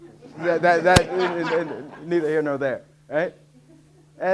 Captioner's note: audience laughing